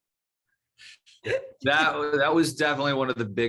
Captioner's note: laughing